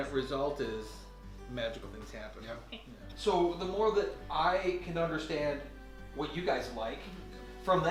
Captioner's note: none